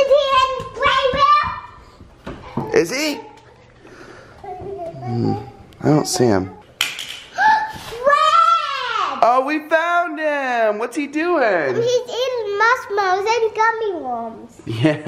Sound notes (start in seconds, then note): 7.3 gasp